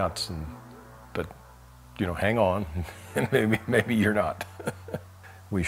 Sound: laughs

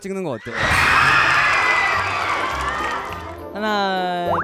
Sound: cheering

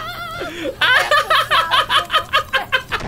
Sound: evil laugh

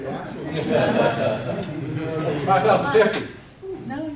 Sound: audience laughing

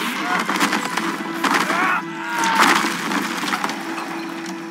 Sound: groans

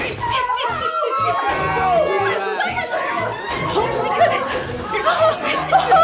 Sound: lots of loud commotion

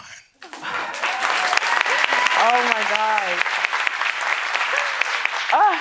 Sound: applause

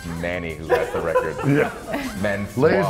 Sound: laugh

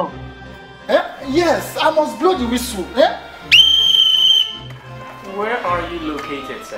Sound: blows whistle

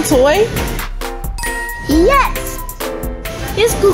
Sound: chiming

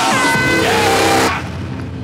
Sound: air horn blows

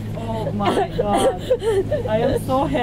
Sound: laughs

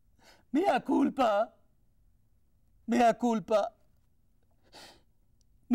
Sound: speaking in foreign language

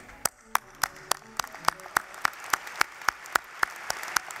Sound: applause

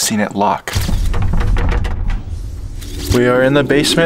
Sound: door handle jiggling

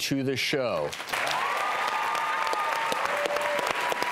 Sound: applause

